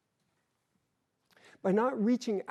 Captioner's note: none